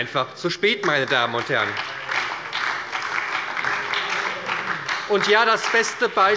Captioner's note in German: Beifall bei der SPD